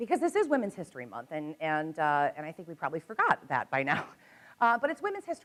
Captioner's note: chuckles